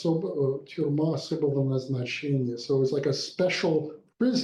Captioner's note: speaks in foreign language